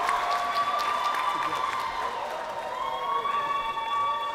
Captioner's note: crowd cheering